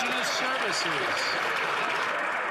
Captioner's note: some Applause